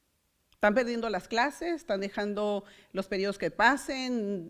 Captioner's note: foreign language